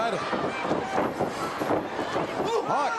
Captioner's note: crowd cheering